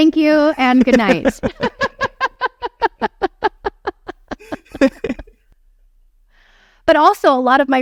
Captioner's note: laughing